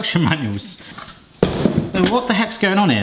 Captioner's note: box thuds